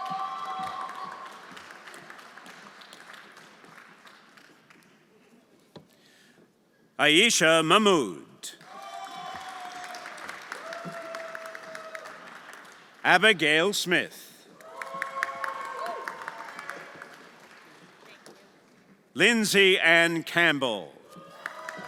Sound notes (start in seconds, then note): 0.0 everyone applauding; 8.6 everyone applauding and cheering; 14.5 everyone applauding and cheering